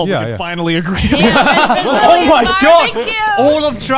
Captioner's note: all laughing